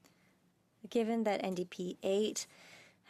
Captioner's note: speaking French